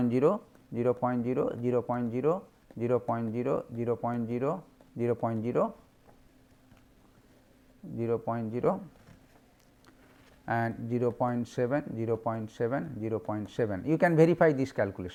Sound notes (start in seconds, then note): 4.0 fuzzy